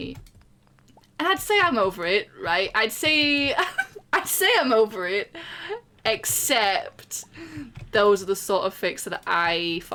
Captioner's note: laughs